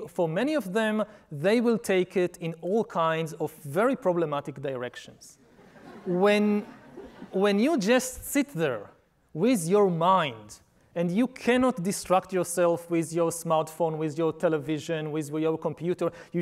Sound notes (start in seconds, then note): 5.4 audience laughing